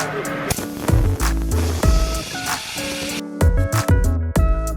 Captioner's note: upbeat music; spraying; upbeat music